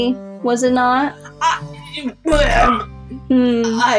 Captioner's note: Stammers as Jæmis